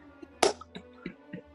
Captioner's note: laughing; key claps